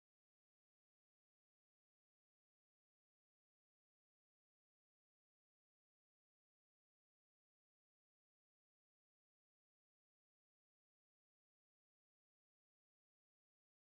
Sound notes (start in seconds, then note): none